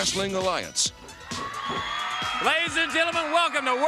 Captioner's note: crowd cheering